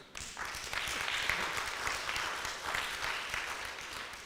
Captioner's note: audience applauds